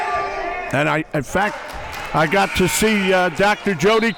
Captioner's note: buzzer blares